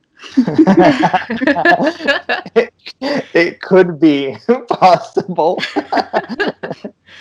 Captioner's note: laughter